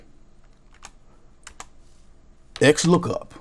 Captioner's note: keyboard clicks